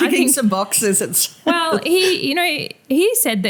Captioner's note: laughter